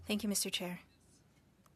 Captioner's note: speaking French